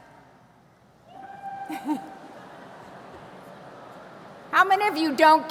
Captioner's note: person cheers; some people laugh